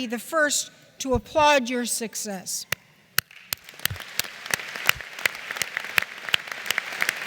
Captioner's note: applause